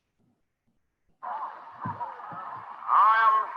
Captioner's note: audience chattering